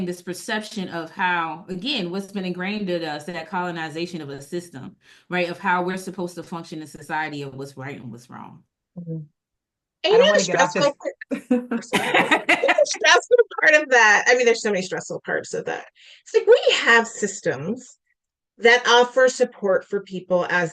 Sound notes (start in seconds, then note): 11.3 laughter